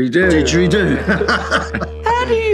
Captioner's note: laughing